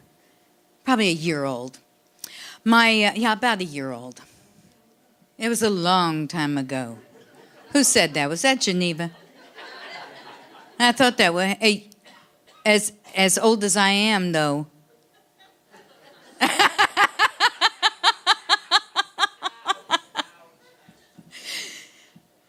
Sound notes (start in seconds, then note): 7.0 audience laughing; 9.0 audience laughing; 15.2 audience laughing; 16.2 laughing